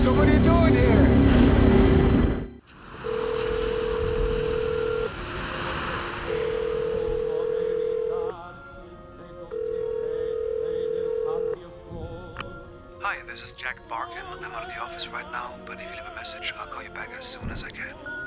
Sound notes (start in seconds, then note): 3.3 phone ringing; 6.5 singing in foreign language